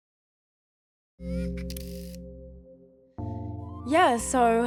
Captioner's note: lens whirrs, clicks